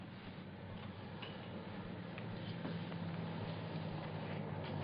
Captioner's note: car approaching